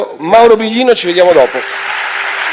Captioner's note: Applauso